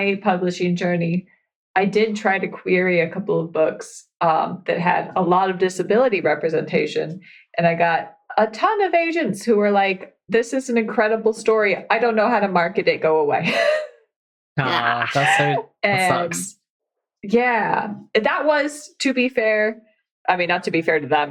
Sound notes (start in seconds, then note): 14.6 laughs